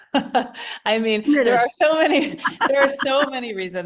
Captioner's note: laughs